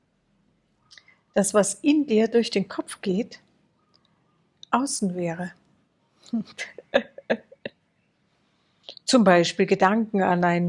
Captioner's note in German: gelächter